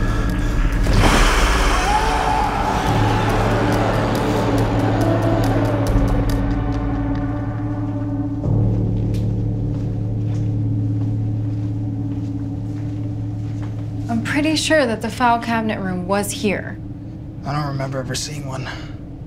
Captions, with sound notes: (Terry screaming) I'm pretty sure that the file cabinet room was here. - I don't remember ever seeing one.